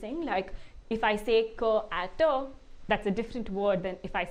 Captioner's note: non-english speech